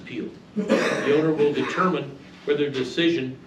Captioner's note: male audience member coughs boisterously